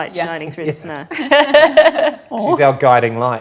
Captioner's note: group laughs